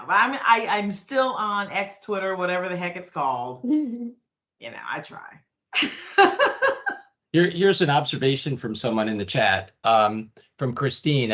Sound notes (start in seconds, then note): 3.6 chuckling; 5.6 laughing